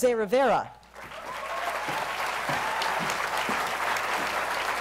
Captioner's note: applause